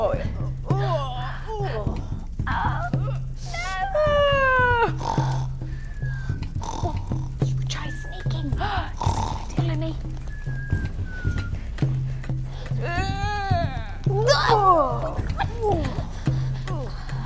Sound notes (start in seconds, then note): 4.9 yawning, snoring; 10.9 tense music